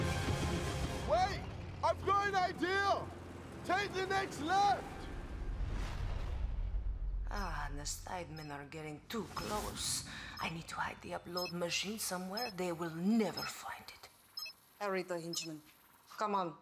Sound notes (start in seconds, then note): none